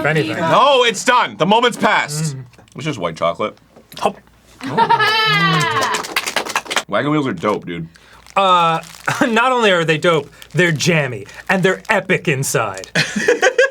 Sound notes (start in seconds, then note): 4.6 audibly gulps out of air like a fly fish; 5.0 applause as queen dan waves to the people